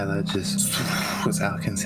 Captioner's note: SHHHoooo